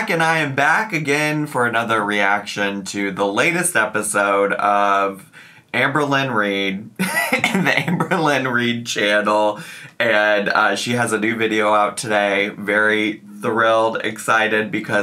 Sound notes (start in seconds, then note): 7.0 laughing